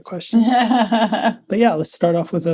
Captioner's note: laughs